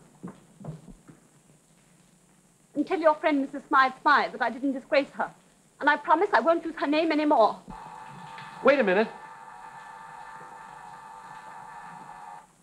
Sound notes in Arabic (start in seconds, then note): 7.5 طنين الاتصال الداخلي